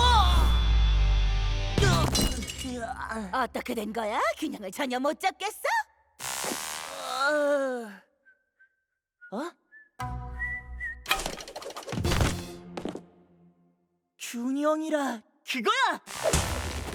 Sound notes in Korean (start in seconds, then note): 2.0 셉 신음 소리; 7.2 신음 소리; 8.1 희미한 휘파람 소리; 8.7 놀라는 소리; 10.2 휘파람 소리